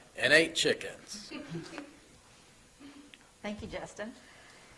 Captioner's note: people laughing